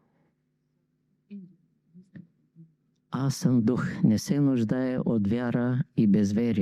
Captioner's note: inhale